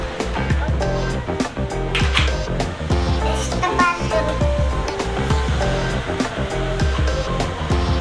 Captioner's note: applause